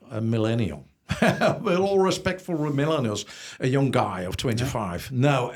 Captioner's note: laughs